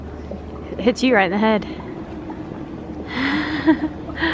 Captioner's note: laughs